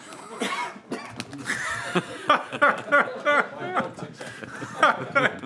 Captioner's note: laughter